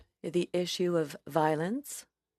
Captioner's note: speaking FRENCH